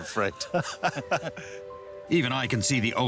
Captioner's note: laughing